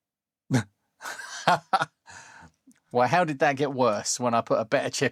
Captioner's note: laughs